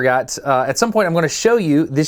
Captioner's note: none